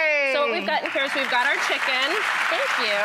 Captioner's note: audience cheering